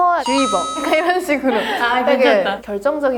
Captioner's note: laugh